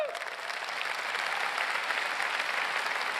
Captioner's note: applause